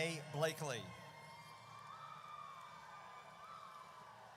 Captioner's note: audience cheers